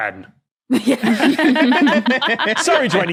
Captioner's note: guests laughing